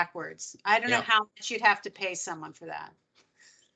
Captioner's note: laughing